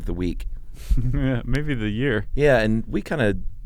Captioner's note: laughs